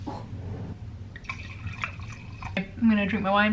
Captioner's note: wine pouring